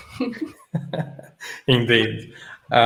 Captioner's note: chuckling